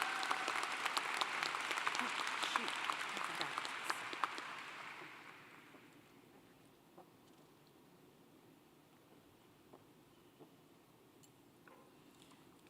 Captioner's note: applause